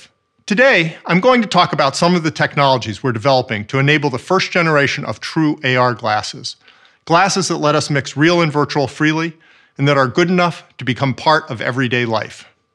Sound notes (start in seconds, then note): none